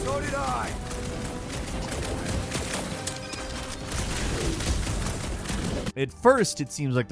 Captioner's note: guns firing